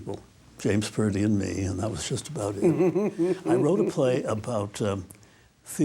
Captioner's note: laughs